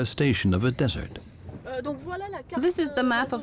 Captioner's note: speaking French